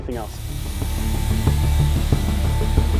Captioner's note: spraying; serious music